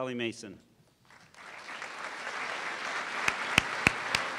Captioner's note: applause